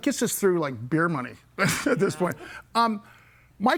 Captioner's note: laughs